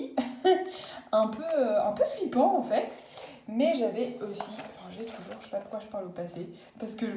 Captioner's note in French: Rires